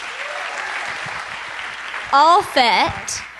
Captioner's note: applause